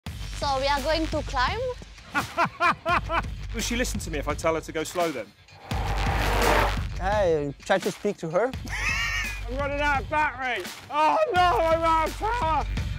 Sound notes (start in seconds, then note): 2.1 laughs; 8.7 laughs